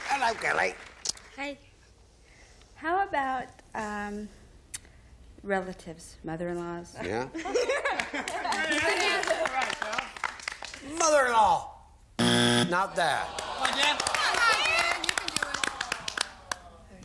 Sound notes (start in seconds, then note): 0.0 applause; 12.2 buzzer